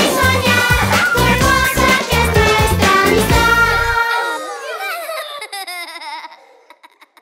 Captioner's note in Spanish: Risas